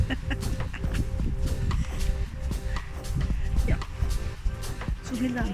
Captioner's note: laughing